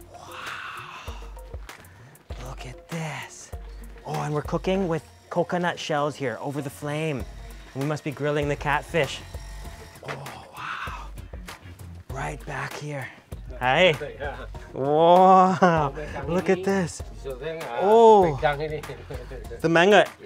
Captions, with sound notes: Wow. Look at this. Oh and we're cooking with coconut shells here, over the flame. We must be grilling the catfish. Oh wow. Right back here. Hi. (speaking in a foreign language) Wow, look at this.